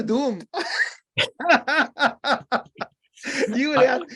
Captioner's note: laughter